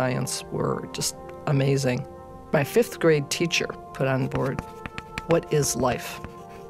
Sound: chalk sound

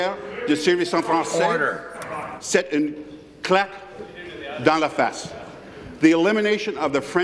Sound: speaking in French

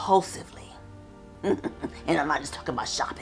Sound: chuckles

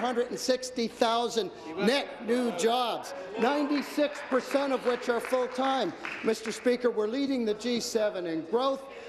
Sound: applause

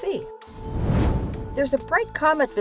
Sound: whoosh

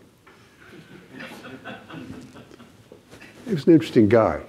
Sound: audience laughing

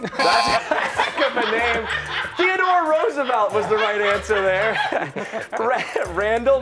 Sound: laughter

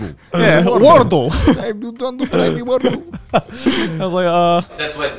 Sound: imitating Russian accent

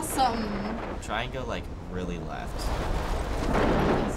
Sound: lightening cracking

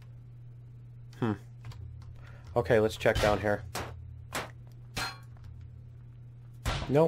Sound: pinging

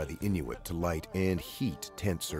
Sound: voiceover

